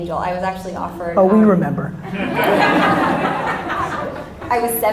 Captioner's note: audience laughter